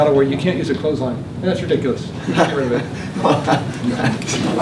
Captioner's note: laughter